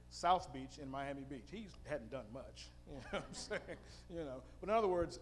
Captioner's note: chuckling